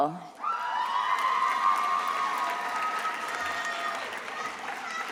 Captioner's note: attendees applauding and cheering